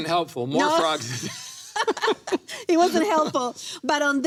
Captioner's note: both laughing